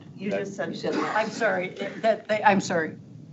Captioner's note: board members murmuring